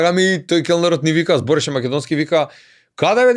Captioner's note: he spoke Macedonian